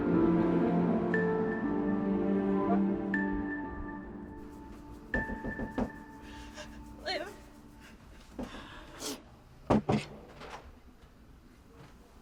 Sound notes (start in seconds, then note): 5.1 door knocking